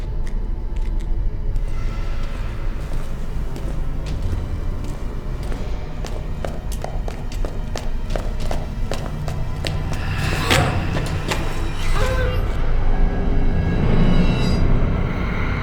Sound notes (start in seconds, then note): 6.5 footsteps echoing; 11.5 grunting